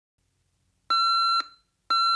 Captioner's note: alarm clock beeping